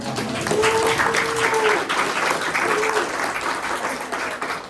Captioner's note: audience applauding; audience cheering softly